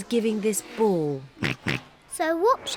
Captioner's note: oinks